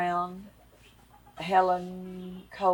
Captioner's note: none